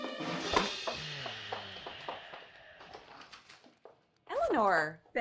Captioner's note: husband sighs; newspaper rustles